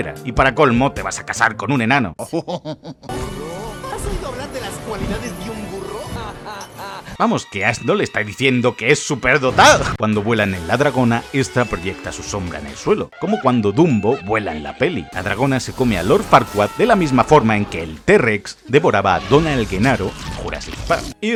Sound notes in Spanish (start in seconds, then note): 2.2 risa sabrosa